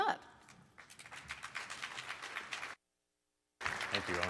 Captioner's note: applause